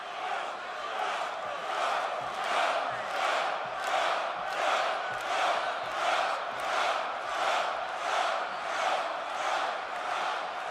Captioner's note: crowd cheering